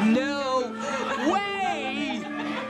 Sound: laughter

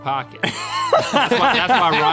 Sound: all laughing

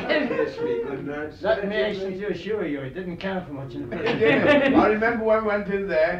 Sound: interrupted by laughter

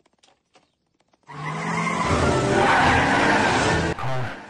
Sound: tires screeching

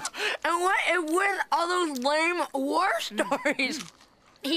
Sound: eating

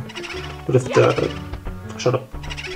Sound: boo sfx

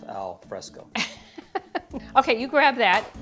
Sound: laughing

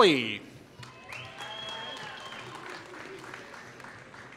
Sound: applause

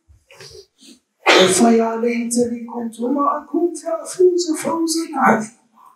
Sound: Arabic

